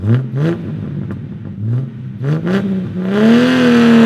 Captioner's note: engine revs